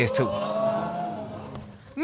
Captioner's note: audience gasps